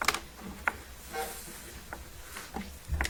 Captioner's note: timer buzzing